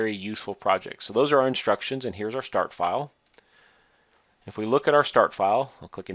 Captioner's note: click